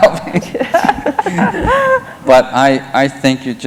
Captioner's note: laughter